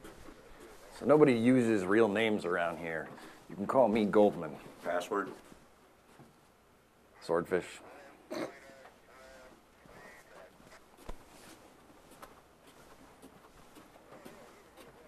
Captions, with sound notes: - So nobody uses real names around here. You can call me Goldman. - Password? - Swordfish. (chuckles)